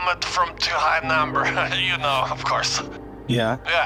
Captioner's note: laughs